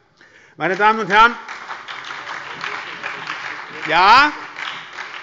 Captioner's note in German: Beifall bei der SPD